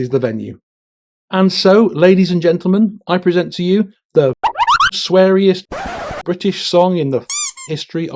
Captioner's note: sound effect; tyre screech; squeak